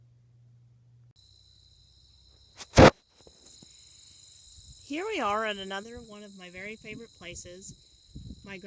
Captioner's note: country sounds of insects buzzing; noise of me bumping into the camera